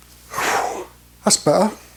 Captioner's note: exhales